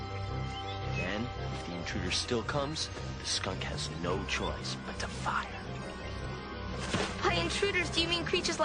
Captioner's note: thuds